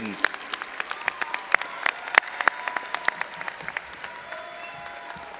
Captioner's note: all applauding and cheering